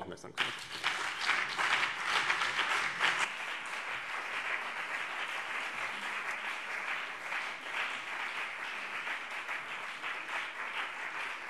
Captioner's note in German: Lebhafter Beifall BÜNDNIS 90/DIE GRÜNEN und CDU